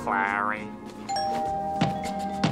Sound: doorbell ringing

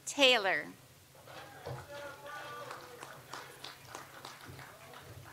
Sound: audience applauds

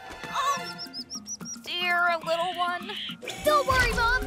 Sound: soft cries

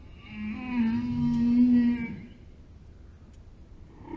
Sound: whales singing

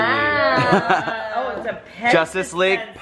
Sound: murmuring

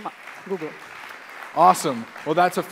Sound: applause

